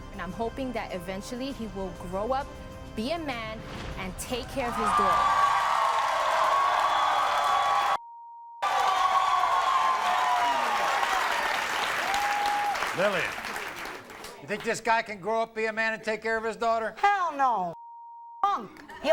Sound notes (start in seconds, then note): 4.6 audience cheers